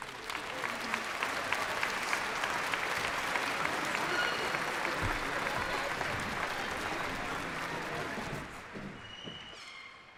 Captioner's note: applause